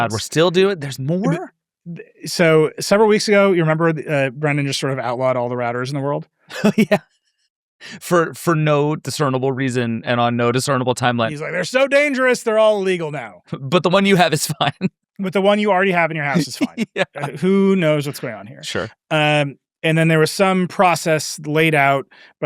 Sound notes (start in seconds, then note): 6.5 laughs; 13.9 laughs